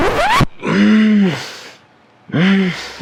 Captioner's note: record scratch